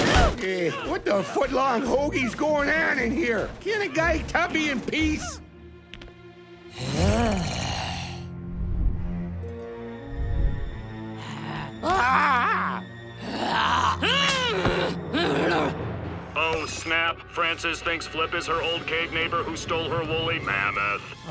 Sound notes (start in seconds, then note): 6.7 growls; 7.9 ominous music; 11.1 growling; 13.2 angry grunting